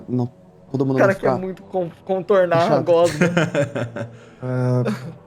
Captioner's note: laughs